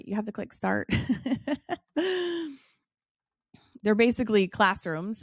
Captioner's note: laughs